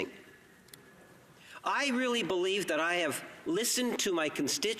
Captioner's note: speaking indigenous language